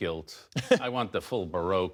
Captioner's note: laughter